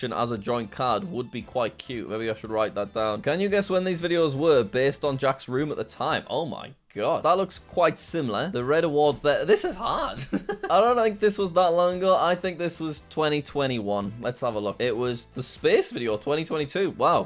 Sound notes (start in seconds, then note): 10.1 laughs